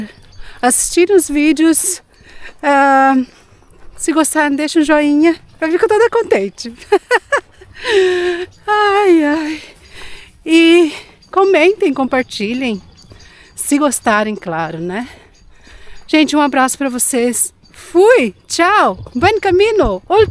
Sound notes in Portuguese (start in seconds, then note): 6.7 risadas